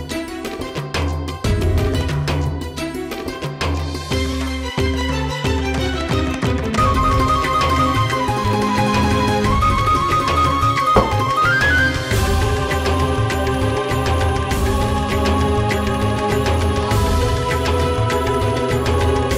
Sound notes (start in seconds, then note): 6.7 dramatic music playing; 10.9 door closing; 14.8 dramatic music playing